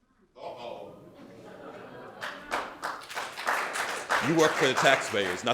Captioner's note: audience applauding